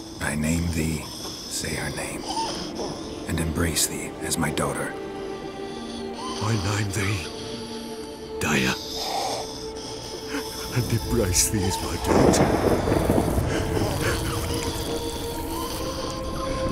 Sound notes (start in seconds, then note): 10.5 sob; 12.0 thunderclap; 12.0 sob